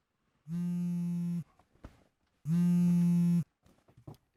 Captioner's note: cellphone vibrating